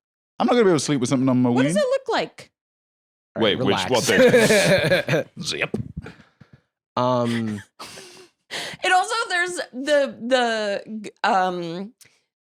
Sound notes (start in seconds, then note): 7.2 laughs